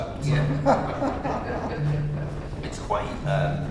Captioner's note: audience laughter